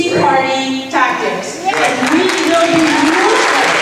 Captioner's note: cheering